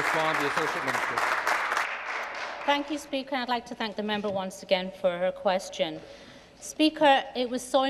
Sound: applause

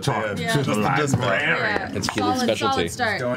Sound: creepy voice

